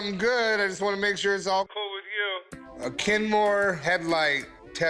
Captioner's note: none